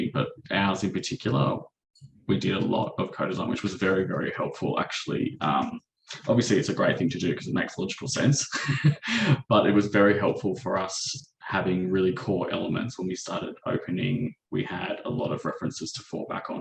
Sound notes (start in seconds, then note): 8.2 chuckles